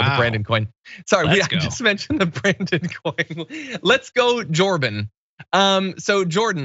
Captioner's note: laugh